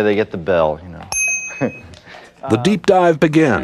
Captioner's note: bell ding